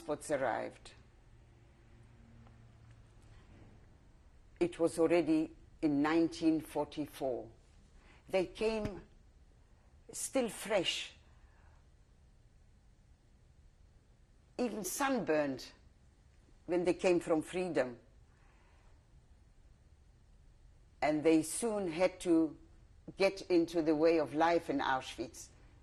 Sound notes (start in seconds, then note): 17.3 pauses for 3 seconds